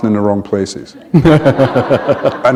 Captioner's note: laughter